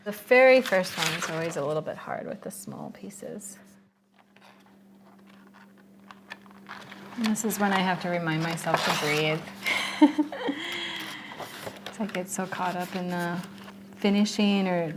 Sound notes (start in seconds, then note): 4.6 paper rustling; 9.6 laughs